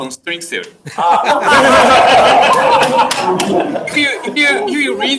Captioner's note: audience laughs